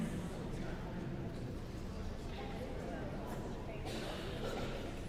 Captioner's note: guests continue chattering